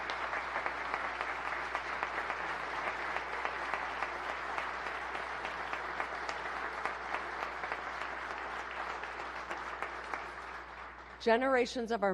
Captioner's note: applause